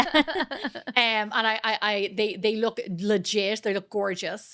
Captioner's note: laughing